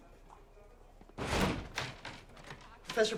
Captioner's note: door thuds